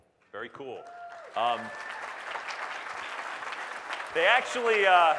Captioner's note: audience Applause